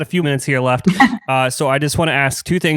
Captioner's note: laughs